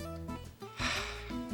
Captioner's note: sigh